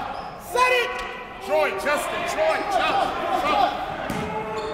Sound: coaches barking commands

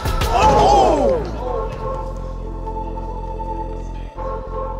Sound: crowd chatter

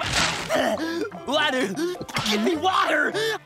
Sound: panting

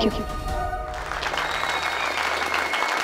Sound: audience clapping

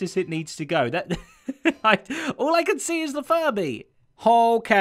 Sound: chuckles

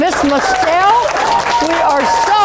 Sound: applauding and cheering

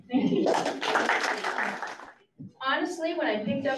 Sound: audience claps

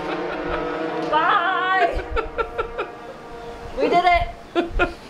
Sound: laughing

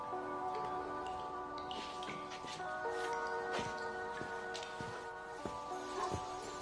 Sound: faucet dripping; people chattering; dog barking

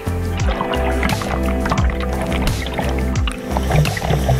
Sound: water bubbling

